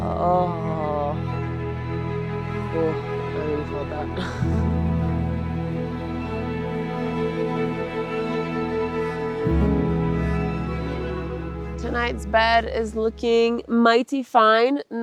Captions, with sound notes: Oh. (gentle music) Oh, I really felt that. (chuckles) (gentle music) Tonight's bed is looking mighty fine.